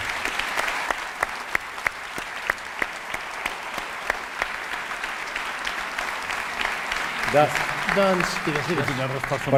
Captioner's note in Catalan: aplaudiments